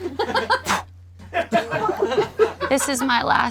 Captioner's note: spits